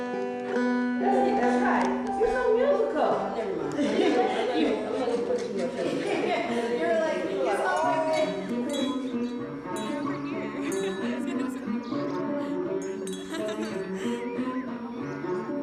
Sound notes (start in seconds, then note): 3.7 laughs; 7.9 bell ringing; 10.0 group conversing and laughing